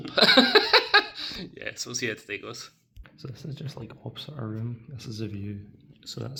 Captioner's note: laughs